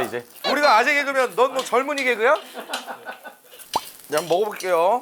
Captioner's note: giggle